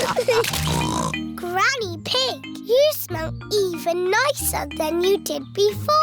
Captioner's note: snorts